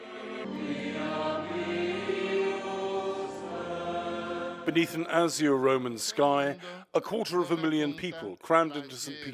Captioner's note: voice-over